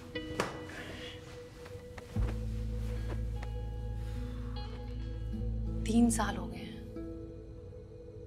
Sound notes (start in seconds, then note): 3.9 exhales